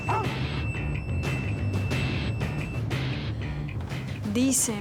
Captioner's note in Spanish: Ladridos